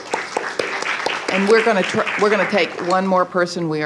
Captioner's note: applause